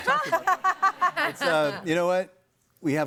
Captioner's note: audience laughing